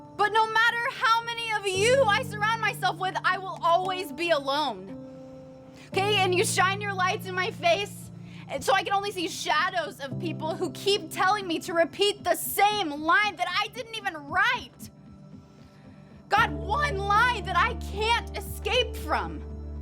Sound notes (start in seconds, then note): none